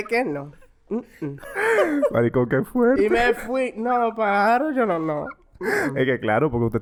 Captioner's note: laughs